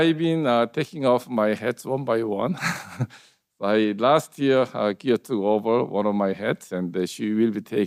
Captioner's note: laughs